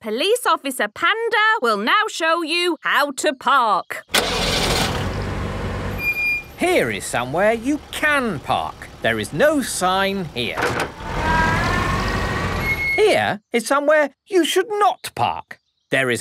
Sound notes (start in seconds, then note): 4.1 breaks squeaking; 4.3 car engine starting